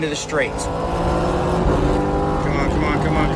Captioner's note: engines rumbling